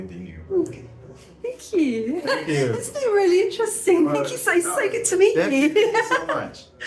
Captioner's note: laughing